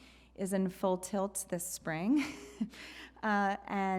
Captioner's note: laughs